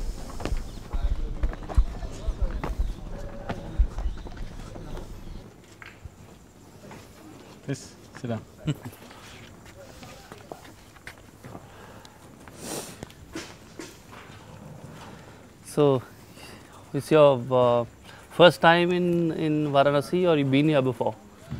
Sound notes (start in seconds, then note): 1.2 laughs